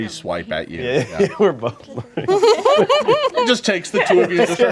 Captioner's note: laughing